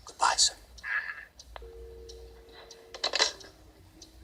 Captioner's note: dial tone